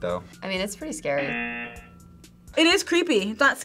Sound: buzzer rings

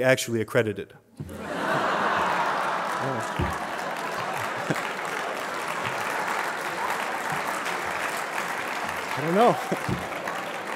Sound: laughter

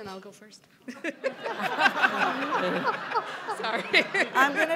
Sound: audience laughing

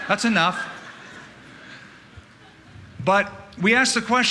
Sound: laughter

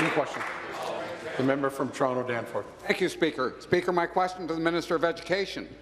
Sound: applause

